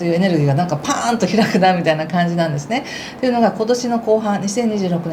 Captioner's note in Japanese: 笑い